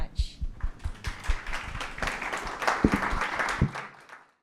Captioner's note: audience applauds